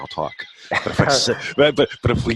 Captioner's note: laughing